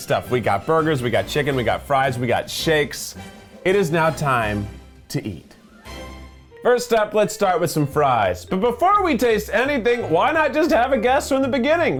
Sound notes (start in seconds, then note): none